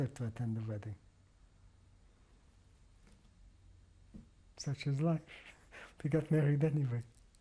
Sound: pauses for 3 seconds

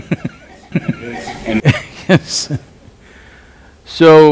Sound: laughs; Sadhguru laughs

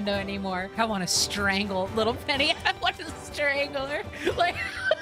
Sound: laughter

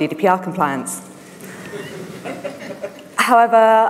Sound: laughter

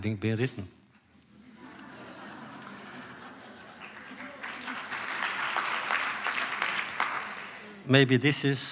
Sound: applause; laughter

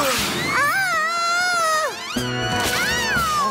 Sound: yells

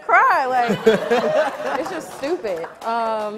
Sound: audience laughing

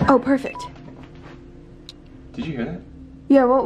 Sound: beeping noise

